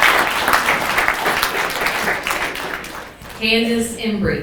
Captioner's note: people clapping